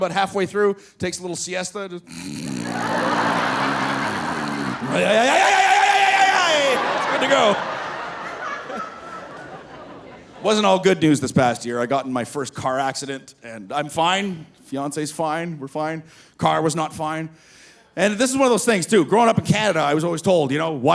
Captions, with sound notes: but halfway through takes a little siesta, just, (snoring) ay, ay, ay, ay, ay, ay, ay, ay. It's good to go. (audience laughing) It wasn't all good news this past year. I got in my first car accident, and I'm fine, fiance's fine. We're fine. Car was not fine. And this is one of those things, too. Growing up in Canada, I was always told, you know,